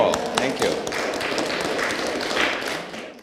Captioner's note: applause